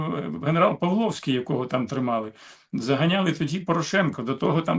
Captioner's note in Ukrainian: сопіння